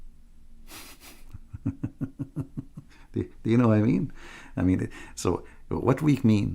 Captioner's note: Ketawa